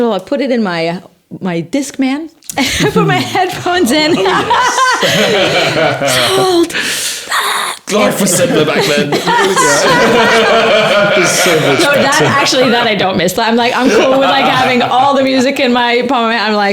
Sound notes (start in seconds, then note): 5.5 laughing; 10.0 laughing